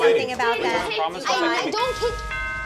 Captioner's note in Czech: zvuky rodinné hádky